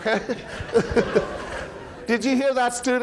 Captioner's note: audience laughing